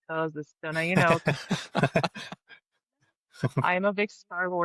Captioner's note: chuckle